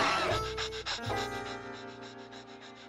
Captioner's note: panting